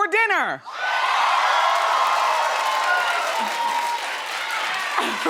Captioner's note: audience cheering